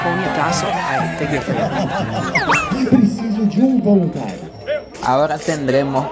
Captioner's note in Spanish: risas